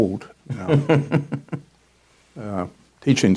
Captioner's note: chuckles